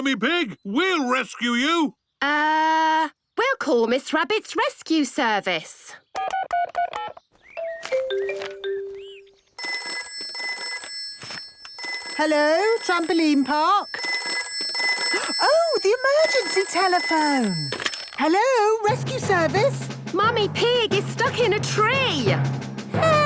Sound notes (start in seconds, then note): 4.2 phone beeping; 7.3 phone ringing; 12.2 phone ringing